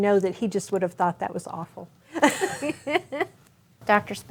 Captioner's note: both laughing